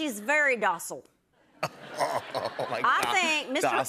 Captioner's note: laughter